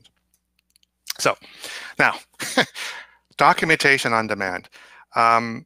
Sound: laughs

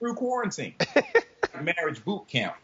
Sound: laughing

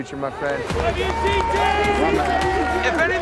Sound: cheering

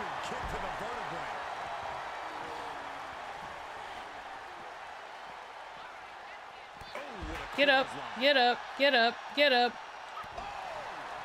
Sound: applause; applause

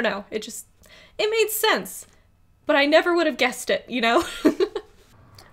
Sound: laughs

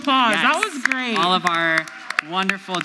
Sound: audience applauds

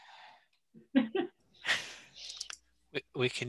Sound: chuckling

